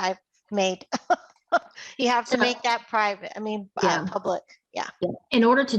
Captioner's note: laughs